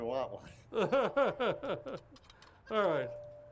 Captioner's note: laughs